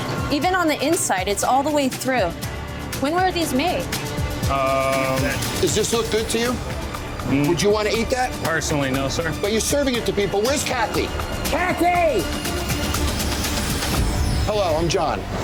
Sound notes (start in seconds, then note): 11.2 yelling